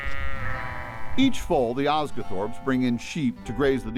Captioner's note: sound of sheep